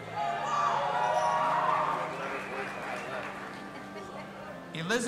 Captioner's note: audience applauding and cheering